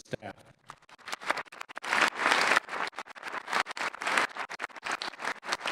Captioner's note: audience applauding